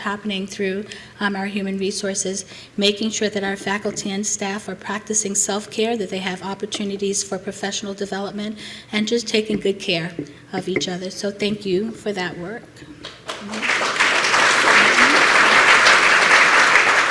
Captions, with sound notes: happening through our human resources, making sure that our faculty and staff are practicing self-care, that they have opportunities for professional development, and just taking good care of each other, so thank you for that work. [APPLAUSE]